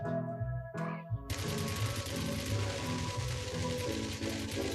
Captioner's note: machine gun fire